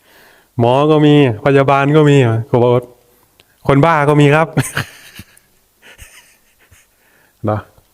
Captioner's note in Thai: เสียงหัวเราะ